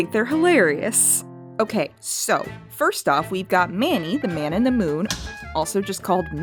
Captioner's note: the sound of paper hitting the wall